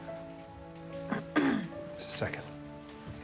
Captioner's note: Jill clears her throat